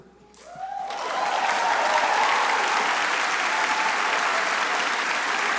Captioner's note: crowd cheering and applauding